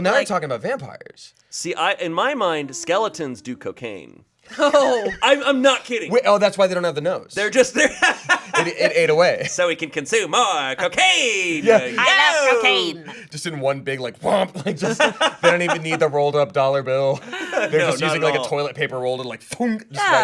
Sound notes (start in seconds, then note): 4.5 laughs; 7.6 laughs; 14.5 laughing